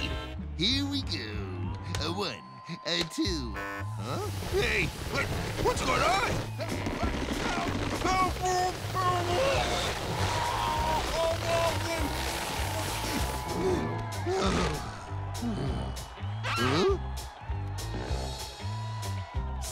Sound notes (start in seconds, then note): 3.4 buzzing